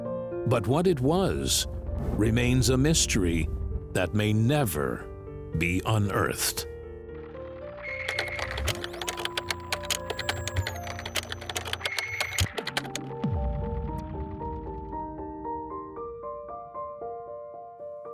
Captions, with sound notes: but what it was remains a mystery that may never be unearthed. (machine whirs and clicks) (piano music)